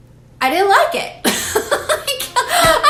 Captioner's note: laughs